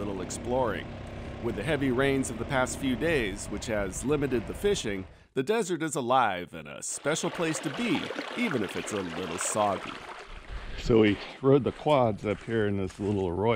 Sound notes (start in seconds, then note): 10.6 water flowing over rocks